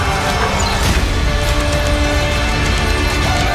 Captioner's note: metal clanging against metal